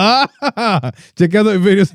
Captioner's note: laughing